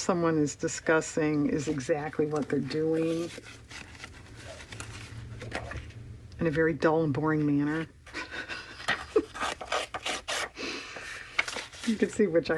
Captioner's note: laughs